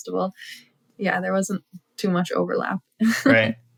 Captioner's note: laughter